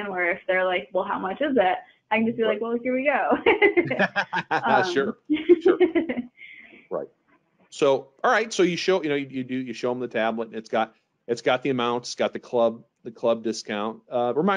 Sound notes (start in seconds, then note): 3.7 laughing; 3.8 chuckling